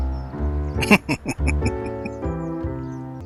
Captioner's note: laughing